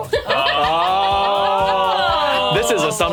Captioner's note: laughing